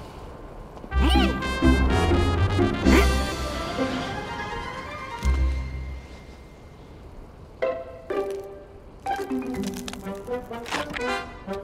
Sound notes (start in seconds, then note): 0.0 wind blowing